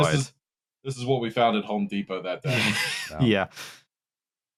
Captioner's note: laughter